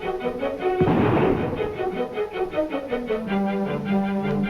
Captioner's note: upbeat music; gunshot firing